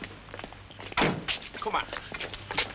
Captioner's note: car door slams shut